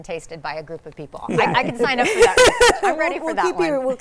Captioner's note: laughs